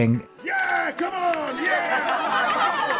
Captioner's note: laughs